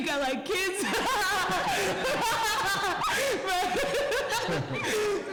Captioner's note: laughter